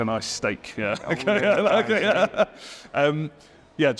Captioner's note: laughs